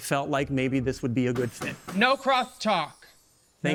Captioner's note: gavel banging